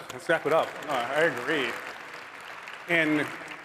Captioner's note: applause